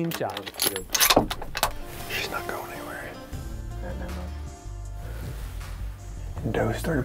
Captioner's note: whispering